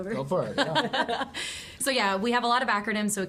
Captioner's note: laughs